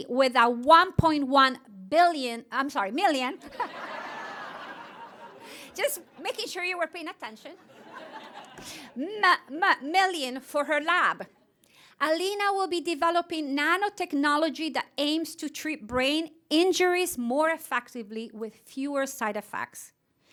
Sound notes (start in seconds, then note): 3.4 laughter